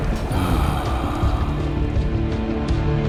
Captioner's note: sighs